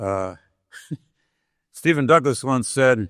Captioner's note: chuckling